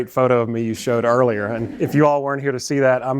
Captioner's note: laughter